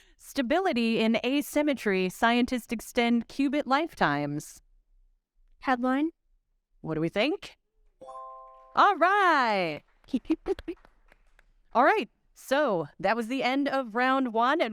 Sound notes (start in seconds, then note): 8.0 bright chime; 8.9 audience clapping